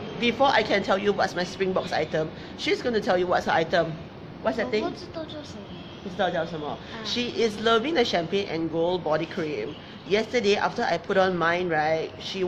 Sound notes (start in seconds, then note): 5.7 speaking in foreign Language